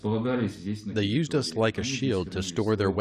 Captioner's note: through translator